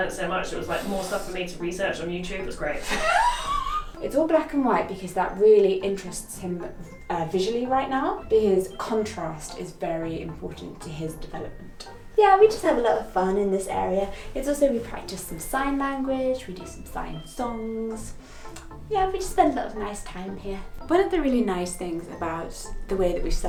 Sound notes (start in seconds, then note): 2.8 laughs